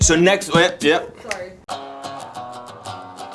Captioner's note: fingers snap; upbeat guitar music